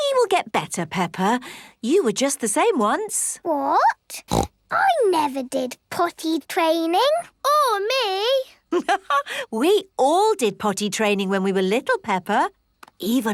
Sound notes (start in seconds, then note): 4.2 snorts; 9.0 laughs